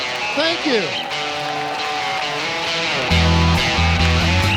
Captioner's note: cheering and applause